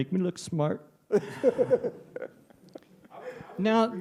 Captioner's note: laughter